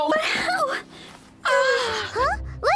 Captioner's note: happy m0an